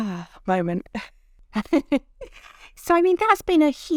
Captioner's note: both chuckling